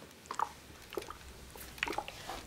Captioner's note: water bubbling